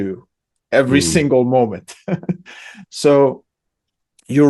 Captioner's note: laughs